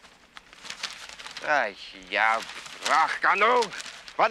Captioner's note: speaking in foreign language